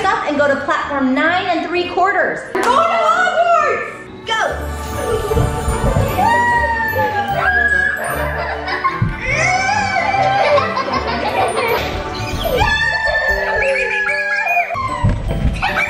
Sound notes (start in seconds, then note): 5.5 enchanting music; 8.9 laughing